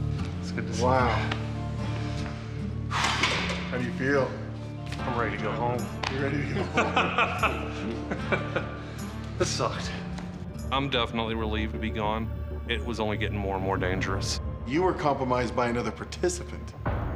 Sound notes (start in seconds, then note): 2.9 sighs; 6.5 laughs